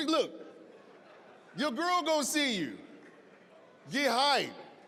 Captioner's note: audience laughing